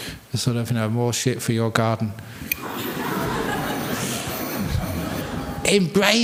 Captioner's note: laughter